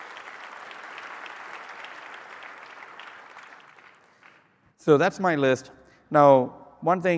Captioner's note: applause